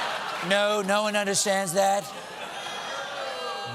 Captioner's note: laughter